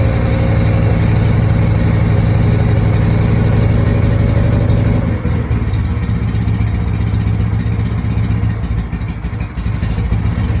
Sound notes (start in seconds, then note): 4.8 engine slows to a calmer idle; 8.5 engine slows further to a lope